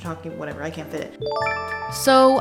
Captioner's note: chime